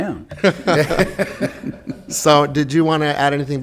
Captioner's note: laughing